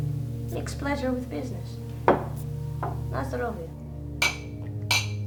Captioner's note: speaks Russian